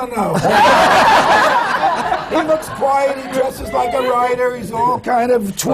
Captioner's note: laughter